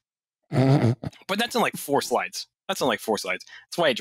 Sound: snorts

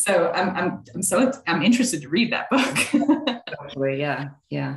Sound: laughing

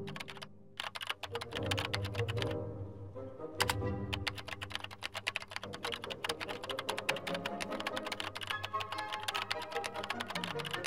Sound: upbeat music; keyboard clicking

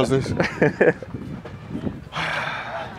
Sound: laughs; sighs

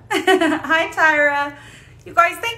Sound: laughing

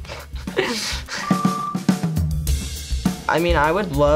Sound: laughs; beeps

